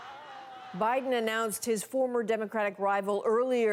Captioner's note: crowd noise